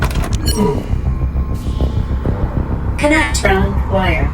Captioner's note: button clicks